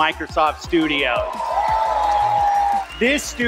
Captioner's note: audience cheers